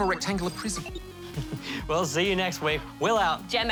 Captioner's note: chuckles